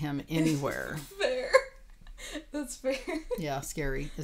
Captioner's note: laughing